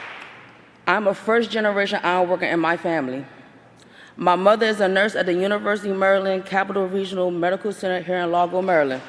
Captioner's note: applause